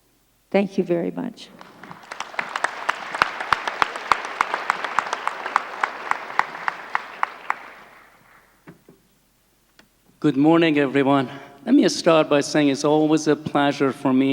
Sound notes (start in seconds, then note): 1.5 applause